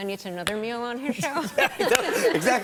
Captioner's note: laughter